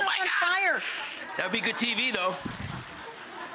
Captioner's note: audience laughing